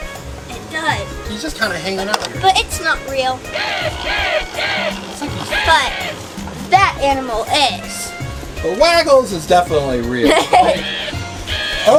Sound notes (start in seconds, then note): 5.5 crow crowing; 10.2 laughter